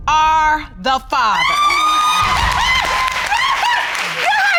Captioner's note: cheering and shouting